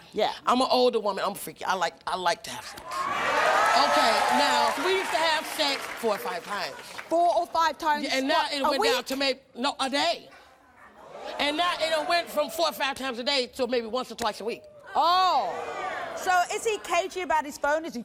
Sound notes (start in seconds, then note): 2.9 audience applauding and cheering; 11.0 audience cheering